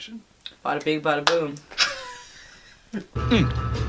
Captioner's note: laughs